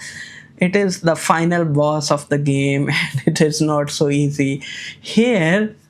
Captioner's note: chuckles